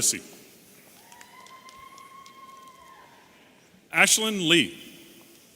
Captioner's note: audience cheering